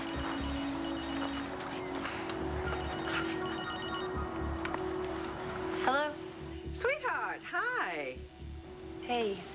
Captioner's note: phone rings